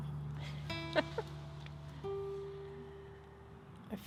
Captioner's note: laughing